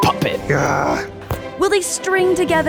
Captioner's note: groans